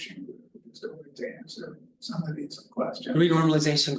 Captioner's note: student faintly speaking